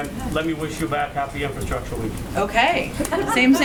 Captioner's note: laughter